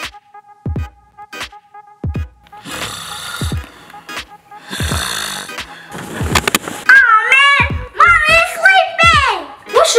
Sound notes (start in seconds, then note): 3.0 snoring